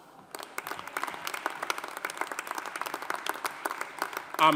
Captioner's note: audience applauding